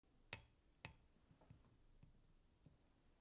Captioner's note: tapping